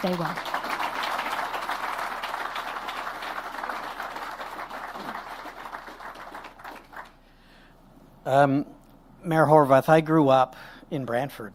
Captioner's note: applause